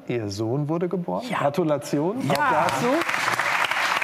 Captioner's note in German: freudig; Applaus